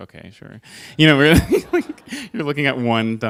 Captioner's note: laughter